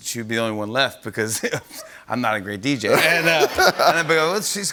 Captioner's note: laughter